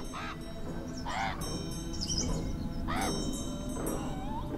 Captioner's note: birds cawing